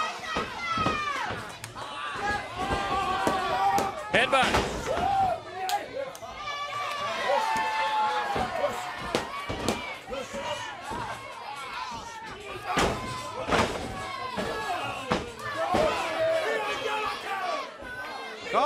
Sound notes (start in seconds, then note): 0.2 crowd chatter; 6.2 crowd cheering; 8.1 crowd chatter